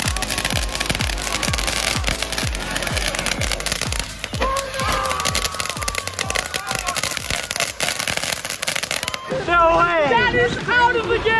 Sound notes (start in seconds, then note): 0.2 fireworks crackling; 5.1 everyone cheering